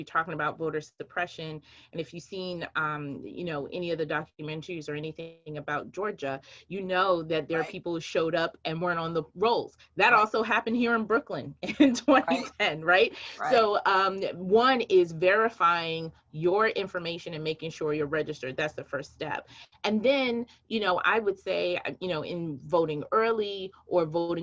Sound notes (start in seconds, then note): 15.0 laughs